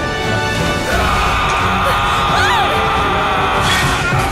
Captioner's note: gritando